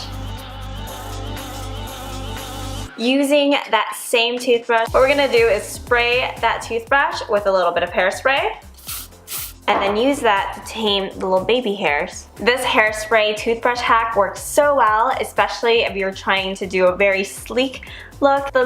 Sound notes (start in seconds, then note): 8.7 hairspray hissing